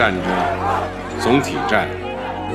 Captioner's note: crowd